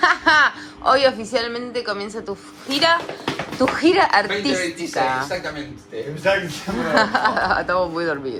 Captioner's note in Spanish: risas; risas